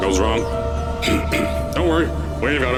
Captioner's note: ahem